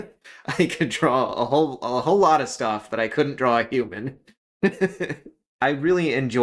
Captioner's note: laugh